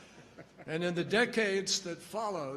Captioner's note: laughter